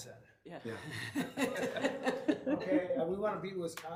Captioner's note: laughter